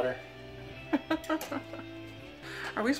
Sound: laughing

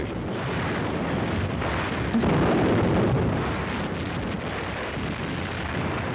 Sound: shells exploding and guns firing

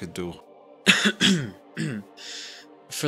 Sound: Agent Otto coughs

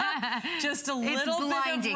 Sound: laughter

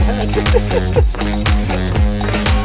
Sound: laughing; exciting music

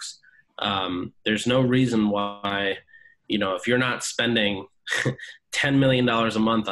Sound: laughs

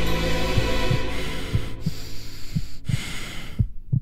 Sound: heart beating

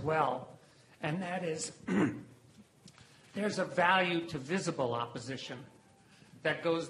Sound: cough

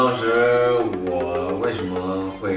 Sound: stammering

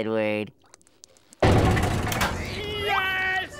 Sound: door slamming

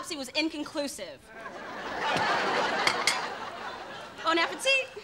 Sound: audience laughing

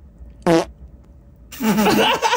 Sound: Peaches farts; all laugh

